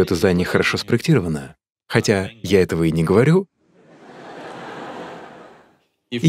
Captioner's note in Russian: Смех